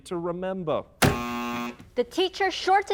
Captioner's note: buzz sound effect